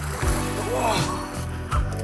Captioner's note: groaning